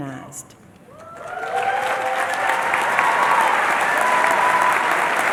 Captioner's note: cheering and Applause